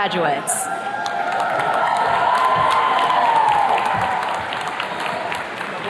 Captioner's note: attendees cheers and claps